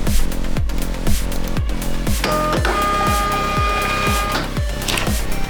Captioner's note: horn Blares